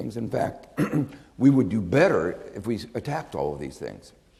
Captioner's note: clears throat